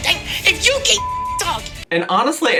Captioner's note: beep